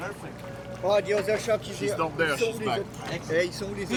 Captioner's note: divers speaking French